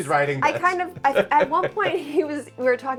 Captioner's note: laughs